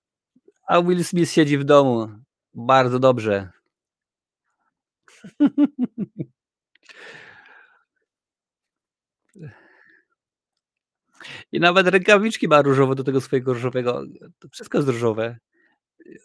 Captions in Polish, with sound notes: Barbie siedzi w domu Bardzo dobrze [śmiech] i nawet rękawiczki ma różowe do tego swojego różowego wszystko jest